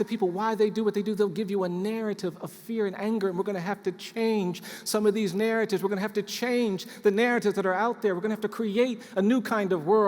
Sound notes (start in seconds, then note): none